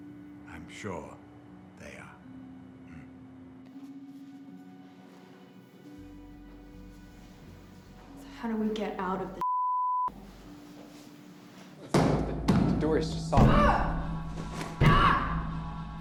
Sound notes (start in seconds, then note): 11.6 loud bang on door